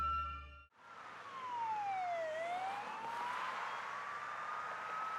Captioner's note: alarm sounding